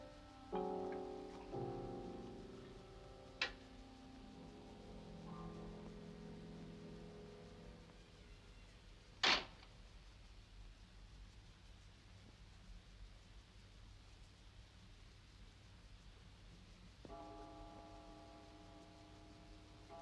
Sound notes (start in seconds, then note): 9.2 door bangs; 9.2 door creaking; 17.1 clock chiming